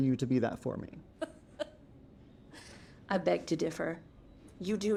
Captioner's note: laughs